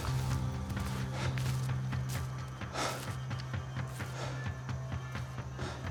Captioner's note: panting